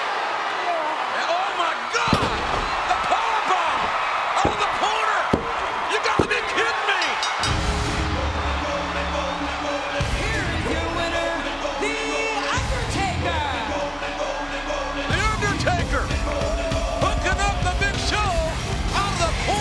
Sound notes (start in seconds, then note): 3.9 crowd cheering; 6.2 bell dinging; 7.3 upbeat music